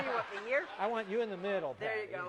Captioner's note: laughter